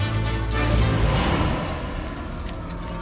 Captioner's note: magical whoosh